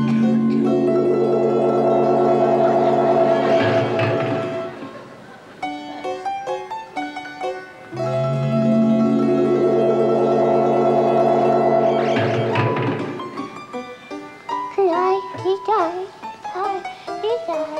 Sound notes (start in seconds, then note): 0.0 suspenseful music; 3.7 clattering; 8.0 suspenseful music; 12.2 clattering; 14.7 singing gibberish